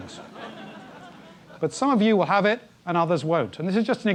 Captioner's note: laugh